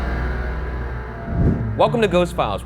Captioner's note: eerie dramatic music; image whooshes